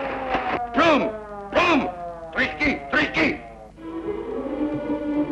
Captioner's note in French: langue étrangère